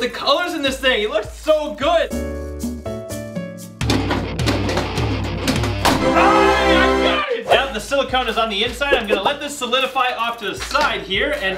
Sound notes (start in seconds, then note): 2.1 elevator music; 4.1 banging; 4.1 rock music